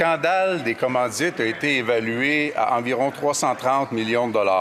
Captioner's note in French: voix de l'interprète